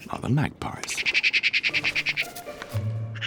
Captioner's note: magpies nattering